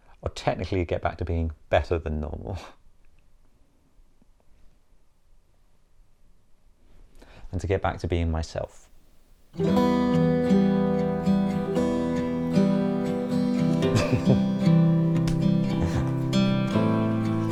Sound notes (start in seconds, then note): 13.5 laughing